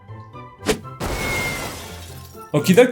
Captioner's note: crashing sounds